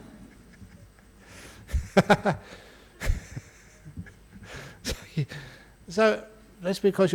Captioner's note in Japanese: アジャン 声を出して笑う